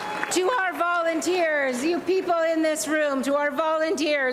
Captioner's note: applause and cheering